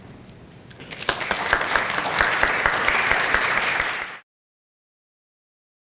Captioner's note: applause